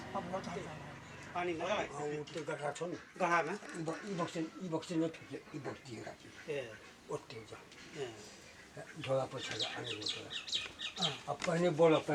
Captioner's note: speaking in local dialect